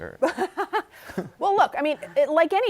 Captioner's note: laughter